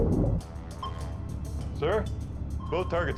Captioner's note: sonar pinging